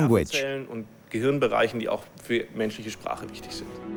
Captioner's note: German spoken audio